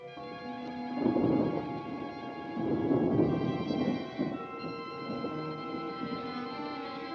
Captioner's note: rolling thunder